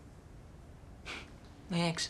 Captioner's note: laughs